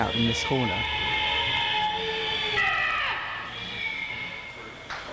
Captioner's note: ride screams, pneumatics hiss